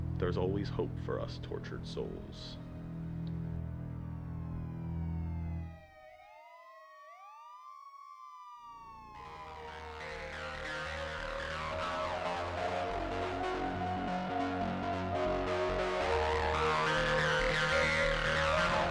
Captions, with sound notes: There's always hope for us tortured souls. (sirens wailing) (dramatic music)